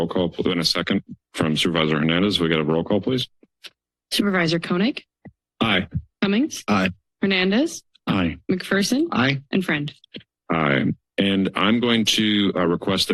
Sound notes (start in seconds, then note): none